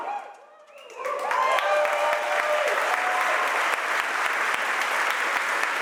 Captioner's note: audience applauds and cheers